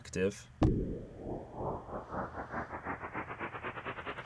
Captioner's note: electronic whirring